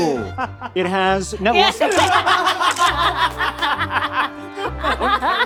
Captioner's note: all laughing; camera clicking